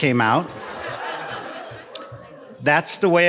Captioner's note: audience laughing